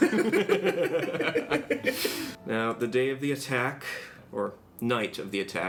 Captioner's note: they giggle